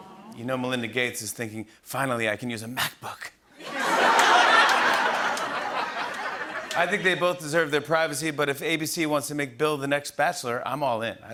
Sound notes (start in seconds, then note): 3.6 laughter and applause